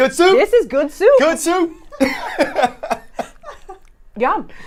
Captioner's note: laughing